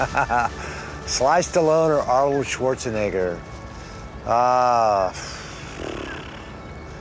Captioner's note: laughs